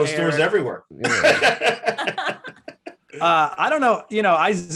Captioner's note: Desi and Eric laughing